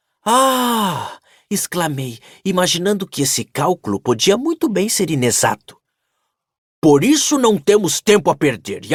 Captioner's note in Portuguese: suspirando